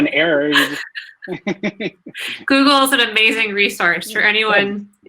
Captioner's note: laughs